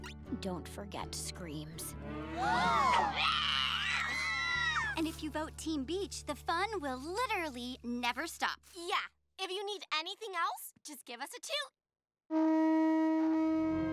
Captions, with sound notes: Don't forget screams. [gasping] [shrieking] And if you vote team beach, the fun will literally never stop. Yeah, if you need anything else, just give us a toot. [honking]